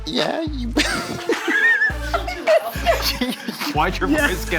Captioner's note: all laughing